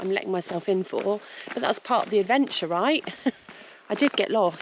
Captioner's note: giggle